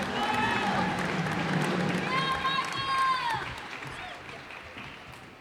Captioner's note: cheers and applause